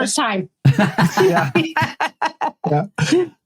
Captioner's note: laughing